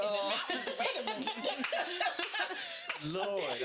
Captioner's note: laughing